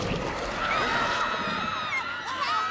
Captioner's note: people screaming; children shrieking